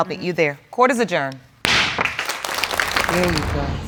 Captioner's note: audience applauding